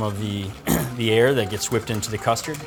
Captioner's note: clears throat